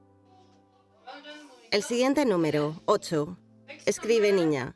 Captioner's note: speaks in a foreign language